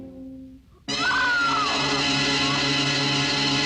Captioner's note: screaming; dramatic instrumental music